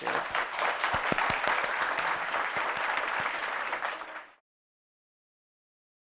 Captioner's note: applause